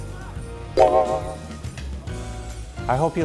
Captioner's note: mo twinkling